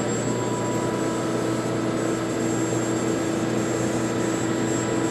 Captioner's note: machine whirring